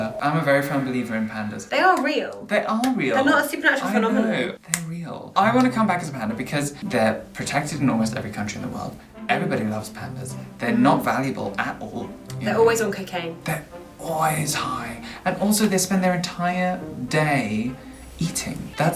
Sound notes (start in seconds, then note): 4.6 snaps